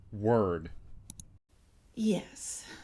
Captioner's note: clicks